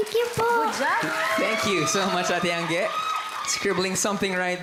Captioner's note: crowd cheers, applauds